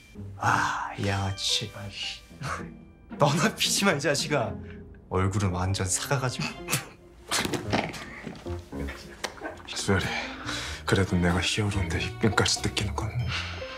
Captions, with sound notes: - Ah, this thief... - Come on. - You should quit smoking, you jerk. You already look like a dinosaur. [laughter] - Suyeol. As your hero, I can't let you pay them off.